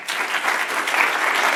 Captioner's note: applause